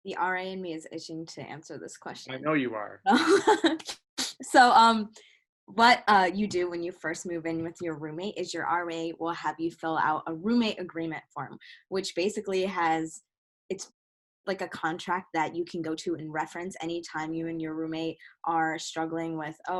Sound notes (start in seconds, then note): 3.1 laughs